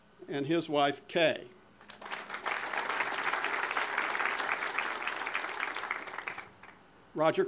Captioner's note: audience applause